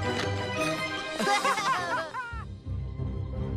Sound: both laughing

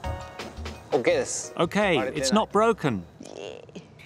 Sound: man's voice

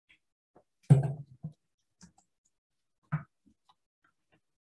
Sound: table banging

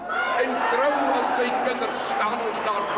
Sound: cheering; in foreign language

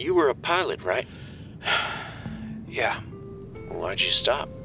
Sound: sigh

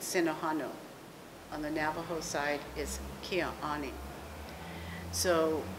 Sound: non-english speech; non-english speech

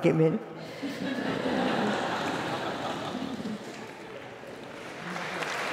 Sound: laugh; applause

